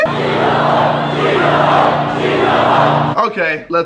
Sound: crowd chanting

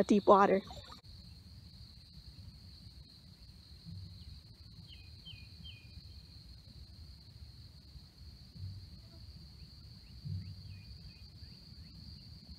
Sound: crickets and birds chirping

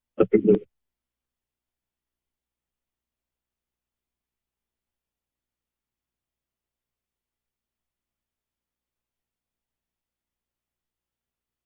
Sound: silence

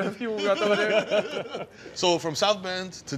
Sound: laughter

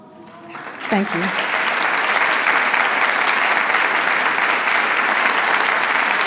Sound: attendees applauding

